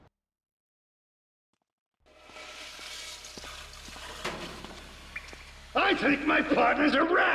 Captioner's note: speaking spanish